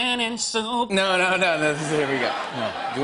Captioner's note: laughter